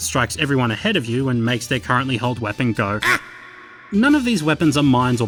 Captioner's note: echoes and fades out